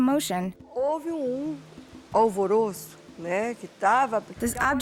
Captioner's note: speaking Portuguese